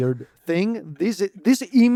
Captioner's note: laughs